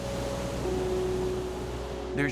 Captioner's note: waves crashing